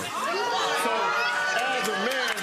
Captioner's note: audience groaning